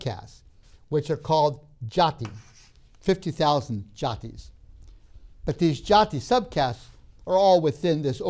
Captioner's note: chalk scraping